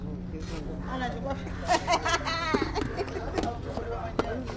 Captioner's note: woman laughing